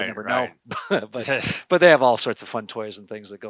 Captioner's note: chuckles